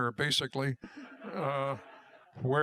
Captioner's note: laughter